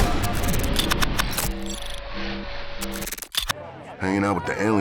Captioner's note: guns fire; alarm sounds